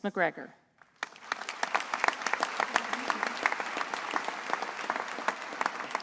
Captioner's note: attendees applauding